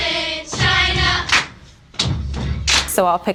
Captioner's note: stomping and clapping